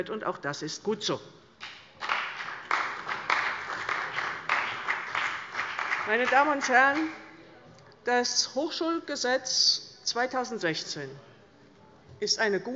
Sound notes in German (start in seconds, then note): 1.6 Beifall bei der CDU und dem BÜNDNIS 90/DIE GRÜNEN